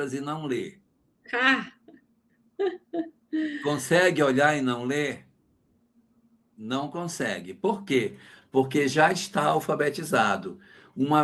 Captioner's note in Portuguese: risadas